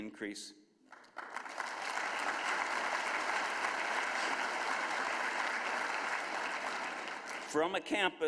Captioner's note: applause